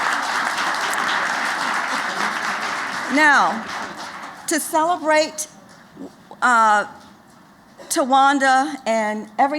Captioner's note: applause